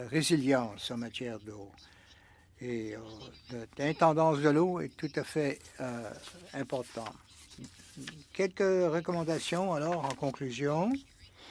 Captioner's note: speaking French